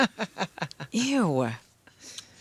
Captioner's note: laughing